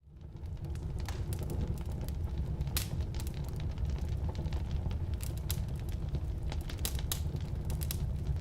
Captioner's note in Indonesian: Perapian perapian, kompor, Suara kayu bakar yang terbakar